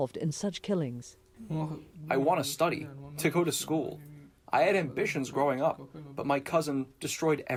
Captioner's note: through translator